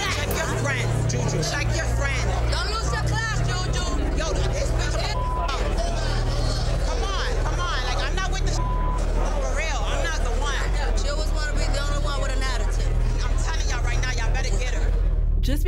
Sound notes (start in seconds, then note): 8.5 beep